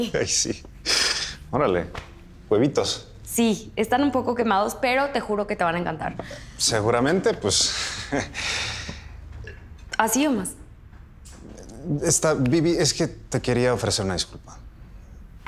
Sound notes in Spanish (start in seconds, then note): 7.6 Ríe